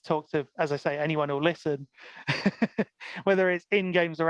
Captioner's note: laughs